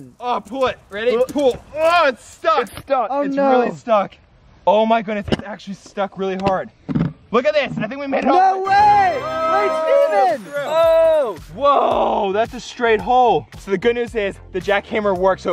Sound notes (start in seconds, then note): 8.7 congratulatory sound; 9.4 metallic twinkling; 10.4 upbeat electronic music